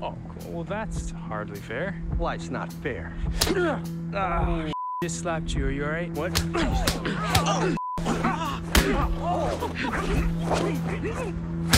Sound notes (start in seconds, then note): 3.3 agonizing scream; 4.2 exclaims; 4.7 beep; 7.8 beep; 8.8 agonizing screams